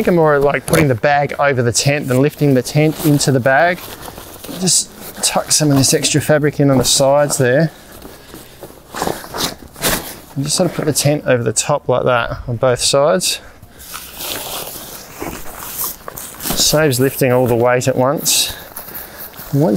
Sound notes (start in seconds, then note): 8.8 tent crumpling; 13.8 tent crumpling